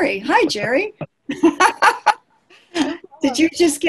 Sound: laughing

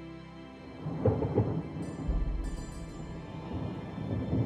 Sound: thunder rumbling

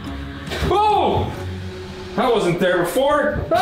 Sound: screams

